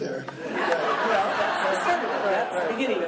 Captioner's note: laughing